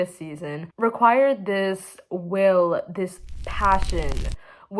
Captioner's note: oooo flames in the background